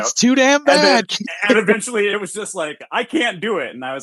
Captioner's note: laughs